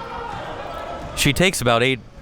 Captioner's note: spectators shouting